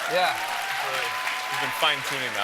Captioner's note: applause